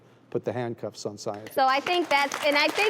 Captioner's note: clapping